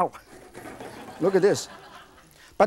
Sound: laughing

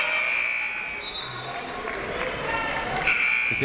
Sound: whistle tweeting; buzzer ringing; buzzer ringing

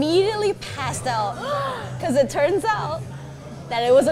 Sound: gasps

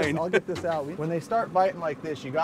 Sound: chuckling

